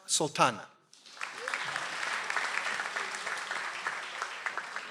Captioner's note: audience applauds